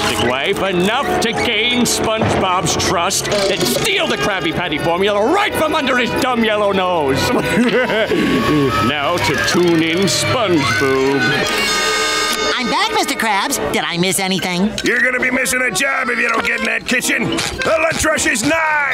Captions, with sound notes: Enough to gain SpongeBob's trust, then steal the Krabby Patty Formula right from under his dumb yellow nose! [laughing] Now, to tune in SpongeBoob. I'm back. Mr. Krabs. Did I miss anything? You're gonna be missing a job if you don't get in that kitchen! The lunch rush is nigh!